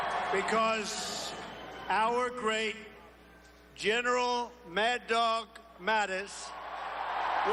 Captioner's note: cheers and applause